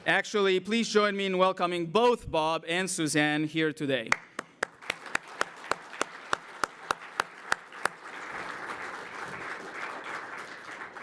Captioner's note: applause